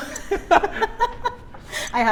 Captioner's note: laughs